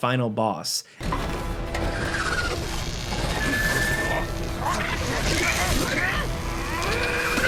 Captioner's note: intense dramatic music; monster screeching; yelling